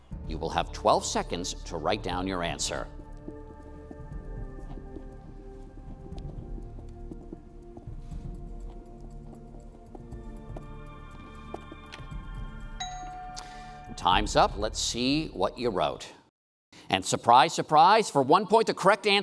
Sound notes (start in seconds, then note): 5.9 intense music; 13.5 bell dinging